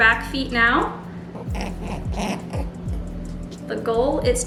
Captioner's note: rabbit grunting